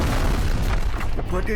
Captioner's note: explosion